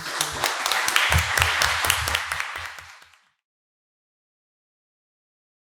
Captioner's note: both applauding